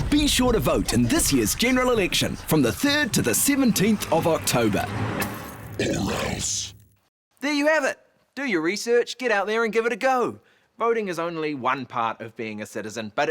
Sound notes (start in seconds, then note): 5.7 monster grumbles